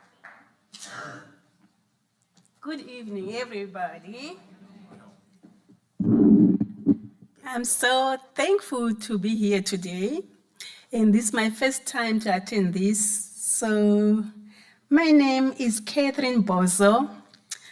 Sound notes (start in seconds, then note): 0.8 audience member coughs; 4.1 audience murmuring; 5.9 microphone creaking